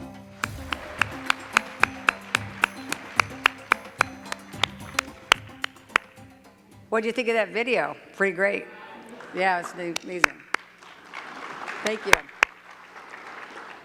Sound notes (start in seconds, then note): 0.4 cheers and claps; 9.9 clapping